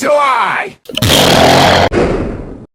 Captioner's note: blast